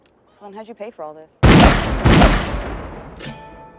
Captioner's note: gunshots